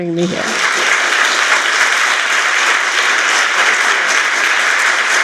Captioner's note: applause